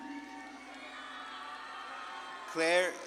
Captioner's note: audience claps and cheers